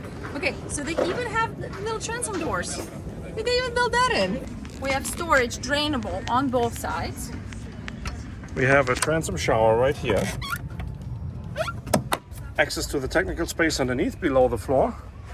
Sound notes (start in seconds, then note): 9.9 cover squeaks; 12.0 cover clicks